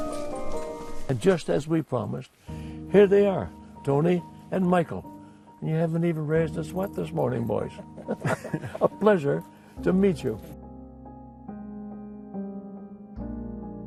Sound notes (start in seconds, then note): 7.8 laughter; 10.2 piano playing